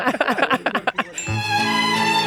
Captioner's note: Charlie laughing; mellifluous music